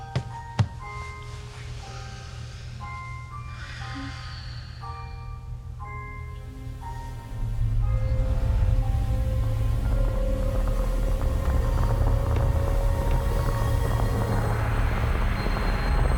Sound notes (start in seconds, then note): 0.1 pillow thudding; 3.4 Miriam exhaling; 7.0 tense music; 12.6 tense music continues